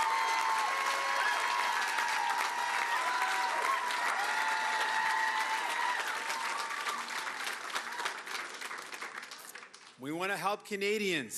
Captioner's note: cheering and Applause